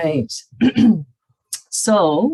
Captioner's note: clears throat